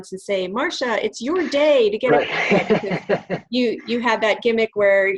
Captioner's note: laughs